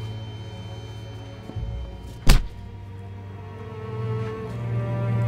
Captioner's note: fist thumps